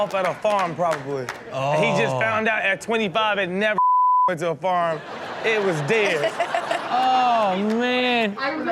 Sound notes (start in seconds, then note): 6.1 Chanel laughs